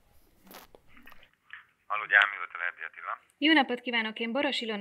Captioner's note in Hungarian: telefon, férfi hang